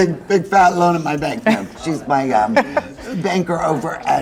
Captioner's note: chuckling